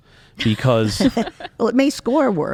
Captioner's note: laughs